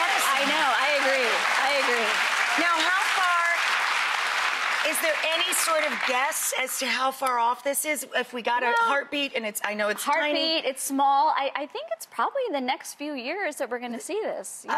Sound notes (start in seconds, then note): 2.6 audience clapping